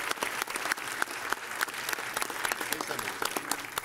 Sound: applause

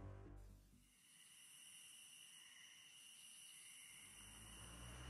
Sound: crickets chirping

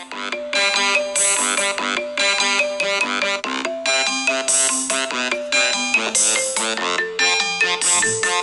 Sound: wake-up alarm sound

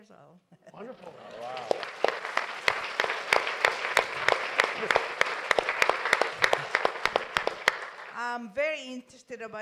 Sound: applause

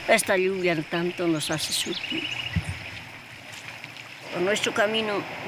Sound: speaking in foreign language

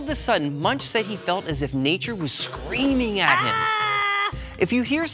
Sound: screams

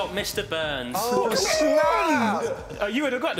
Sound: shouting

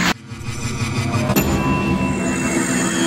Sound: ding!!!

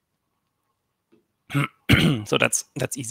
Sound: clears throat

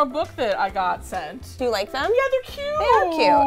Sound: cooing

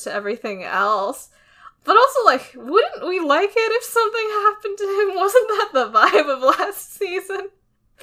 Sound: laughs

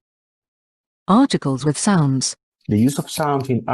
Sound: voice-over

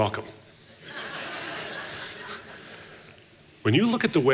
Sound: audience laughing

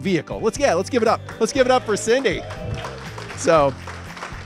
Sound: applause

